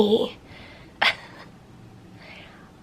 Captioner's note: chuckles